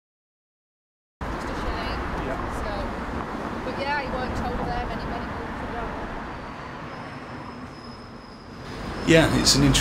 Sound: chatter

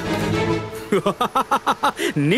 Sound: laughs

